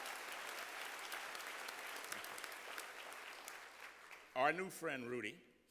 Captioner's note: applause